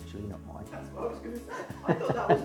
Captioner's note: laughs